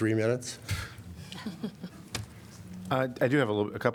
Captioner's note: laughter